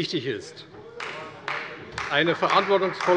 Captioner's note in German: Beifall bei der CDU und dem BÜNDNIS 90/DIE GRÜNEN